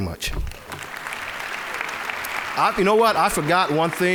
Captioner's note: applause